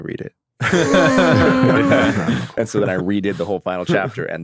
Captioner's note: everyone laughing